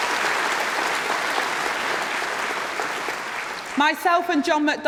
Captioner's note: applause